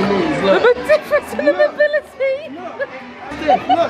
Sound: giggling

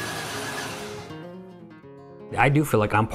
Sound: car engine stops

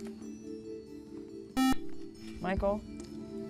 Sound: buzzer

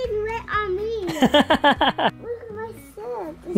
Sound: laughs

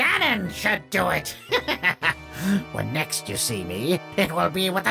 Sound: laughs

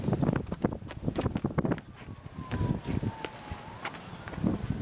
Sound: none

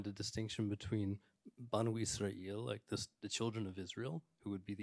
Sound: speaks in Arabic

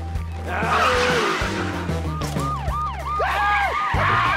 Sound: siren wailing

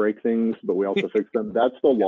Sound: laughing

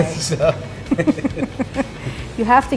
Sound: laughing

